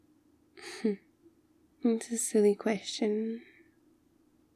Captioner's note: small laughs